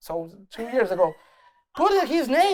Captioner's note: laughs